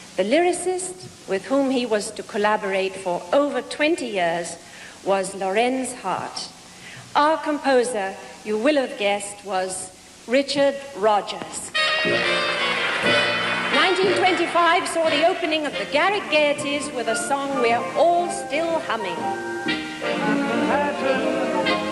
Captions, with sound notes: The lyricist with whom he was to collaborate for over 20 years was Lorenz Hart. Our composer, you will have guessed, was Richard Rodgers. [applause, music] 1925 saw the opening of the "Garrick Gaieties" with a song we're all still humming: We'll have Manhattan,